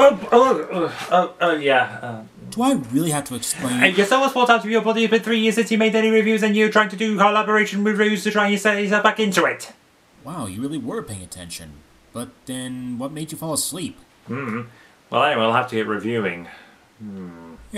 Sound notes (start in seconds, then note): 3.7 speaks rapidly